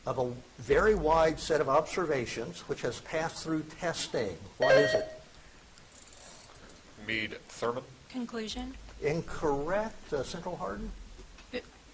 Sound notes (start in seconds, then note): 4.6 buzzer chiming